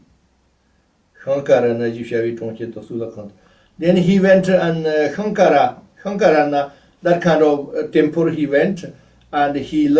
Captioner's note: tibetan